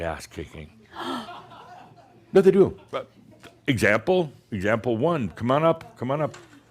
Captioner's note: gasps